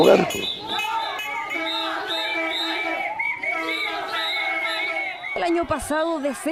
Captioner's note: multitude screaming